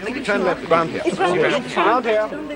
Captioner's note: all chattering